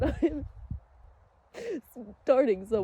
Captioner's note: quiets sobs